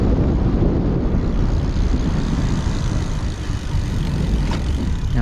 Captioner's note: bicycle hub creaks